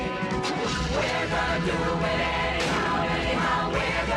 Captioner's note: Заводится двигатель